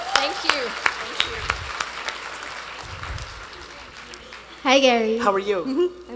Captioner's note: attendees applauding